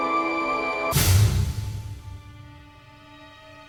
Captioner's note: thud